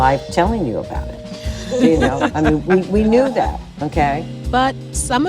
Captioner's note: laughter